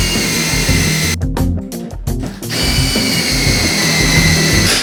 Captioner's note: drilling